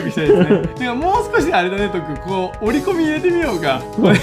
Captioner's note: laughs; laughs